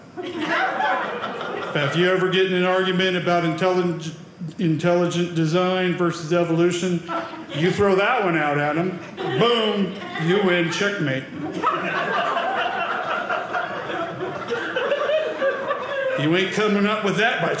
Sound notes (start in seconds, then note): 0.1 audience laughing; 11.4 audience laughing